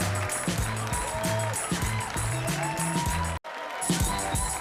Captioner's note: audience cheering